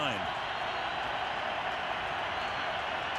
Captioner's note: crowd cheering